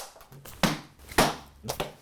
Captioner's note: arrow bangs against the board